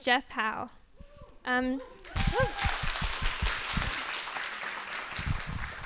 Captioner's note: audience clapping